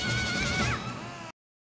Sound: screaming; pressurized Tool Revving

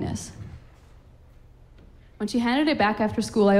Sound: none

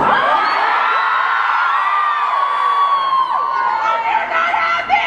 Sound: audience cheers

